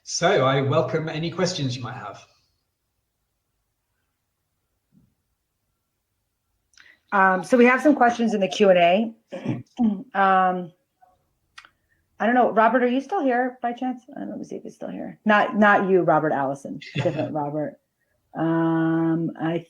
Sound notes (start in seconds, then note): 9.3 clears throat; 16.8 laughs